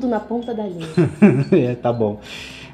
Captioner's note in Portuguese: risos